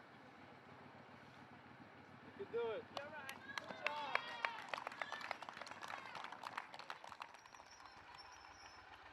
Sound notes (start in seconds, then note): 3.3 cheering